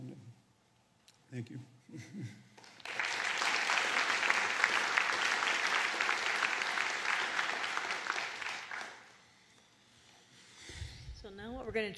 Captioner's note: applause